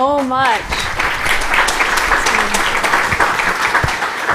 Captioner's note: applause